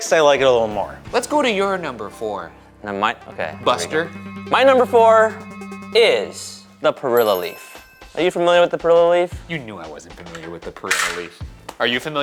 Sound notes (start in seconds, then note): 7.4 bell chiming